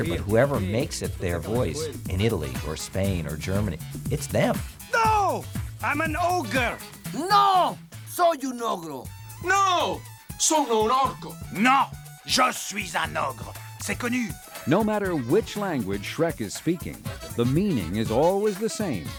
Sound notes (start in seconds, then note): 6.6 speaking Spanish; 8.8 speaking Italian; 11.0 speaking French